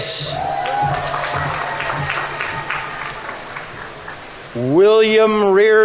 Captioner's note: audience applauding; audience members cheering